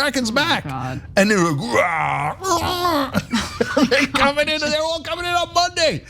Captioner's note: laugh